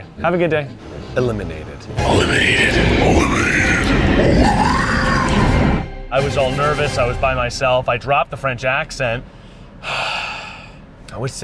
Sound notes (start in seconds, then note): 2.5 dramatic Voiceover; 9.8 sighs